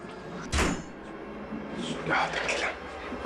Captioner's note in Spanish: Portazo